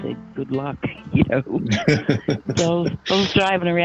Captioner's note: host laughing